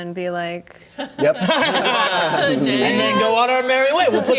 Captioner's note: laughter